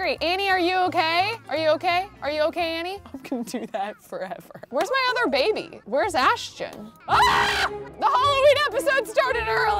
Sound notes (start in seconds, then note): 7.0 screaming